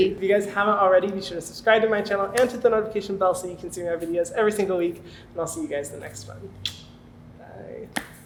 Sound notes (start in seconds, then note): 6.6 kiss